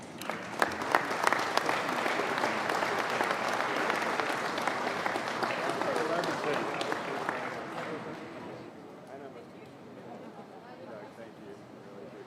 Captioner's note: applause